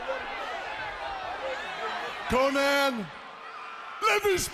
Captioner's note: crowd chatter